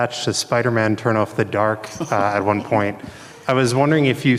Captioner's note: laughs